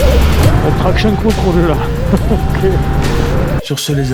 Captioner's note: laughs